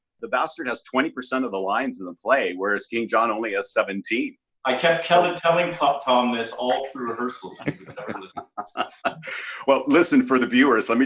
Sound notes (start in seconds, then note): 6.5 laughs